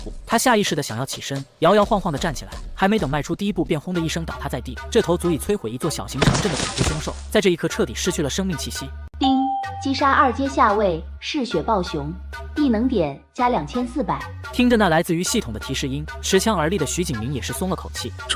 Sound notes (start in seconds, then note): 9.2 ding!